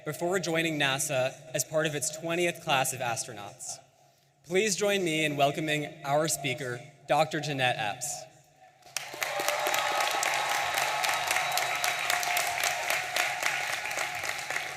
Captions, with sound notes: before joining NASA as part of its 20th class of astronauts. Please join me in welcoming our speaker, Dr. Jeanette Epps. (audience applauding and cheering)